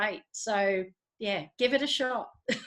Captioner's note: laughs